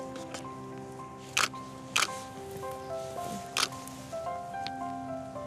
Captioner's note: camera clicking